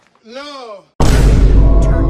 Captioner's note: Vine Boom